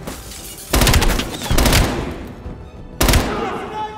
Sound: gunshots; gunshots

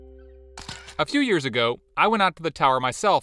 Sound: pleasant music; camera shutter clicks

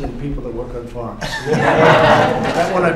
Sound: laughter

